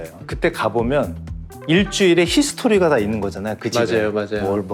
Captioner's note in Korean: 띠링 하는 효과음